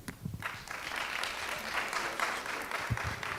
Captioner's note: applause